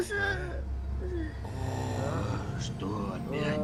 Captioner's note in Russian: звуки кряхтящего пассажира